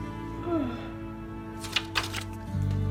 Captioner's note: yawning